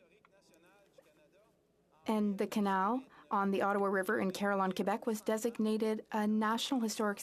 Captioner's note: speaking French